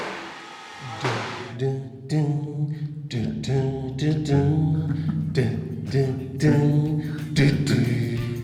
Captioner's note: hums